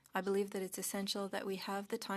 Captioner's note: speaking French